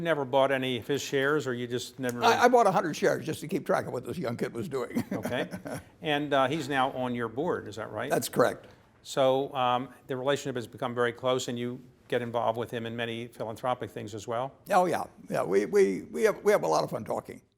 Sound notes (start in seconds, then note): 4.6 laugh